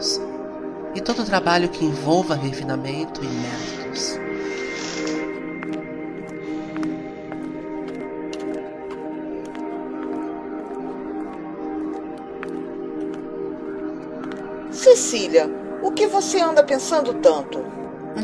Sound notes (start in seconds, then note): 4.7 door opening; 6.3 steps